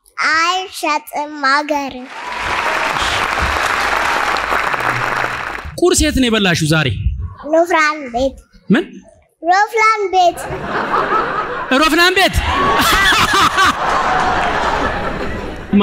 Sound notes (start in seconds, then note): 2.0 applause; 10.3 laughter